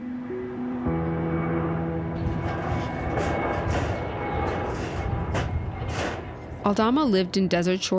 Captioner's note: plane humming